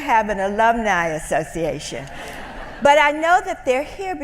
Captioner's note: laughter